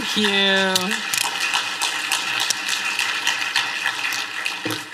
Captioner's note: applause